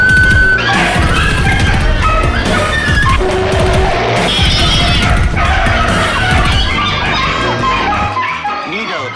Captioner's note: dog & Cats Bark & Meow